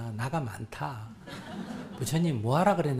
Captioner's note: audience Laughter